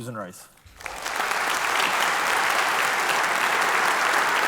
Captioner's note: applause